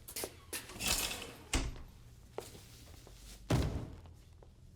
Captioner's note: door creaks open; curtains close; thud